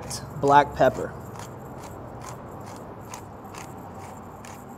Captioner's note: pepper cracks